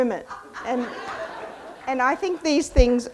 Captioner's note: audience laughs